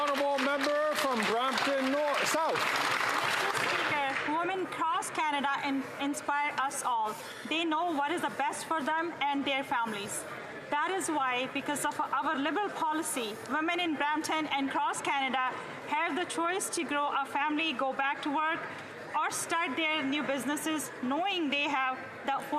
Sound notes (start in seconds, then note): 4.1 some Applause